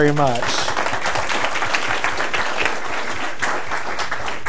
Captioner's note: applause